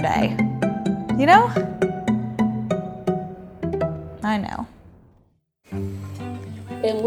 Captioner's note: speaking a foreign language